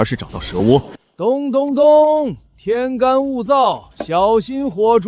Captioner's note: thump thump thump